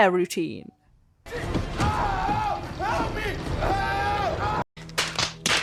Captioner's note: Dean screams